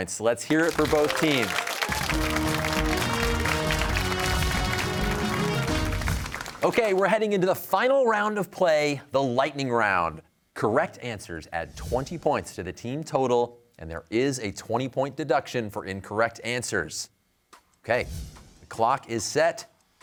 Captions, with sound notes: Let's hear it for both teams. (cheers and applause) Okay, we're heading into the final round of play, the lightning round. Correct answers add 20 points to the team total and there is a 20-point deduction for incorrect answers. Okay, the clock is set.